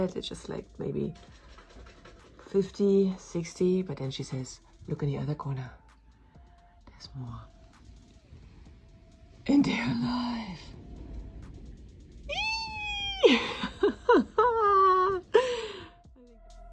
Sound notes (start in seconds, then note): 10.1 squeals